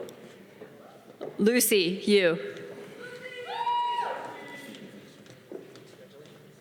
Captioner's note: audience cheering